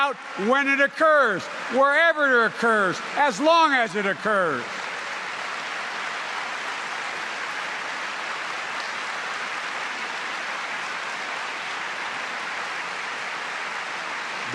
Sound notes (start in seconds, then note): 7.5 applause